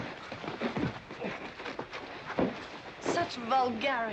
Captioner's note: men scuffling